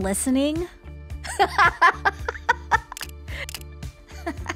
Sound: laughter

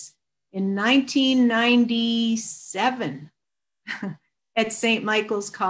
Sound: chuckles

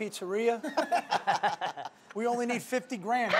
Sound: all laughing

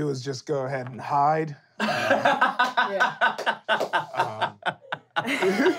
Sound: laughing

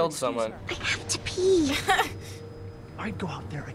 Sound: chuckles

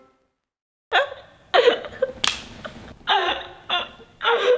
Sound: laughing

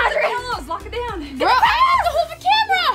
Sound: shouts

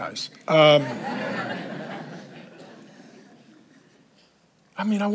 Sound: congregation laughs

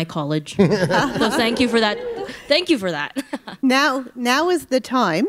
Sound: laughter

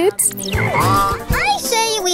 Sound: goose honk

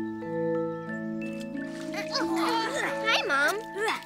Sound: grunts of effort

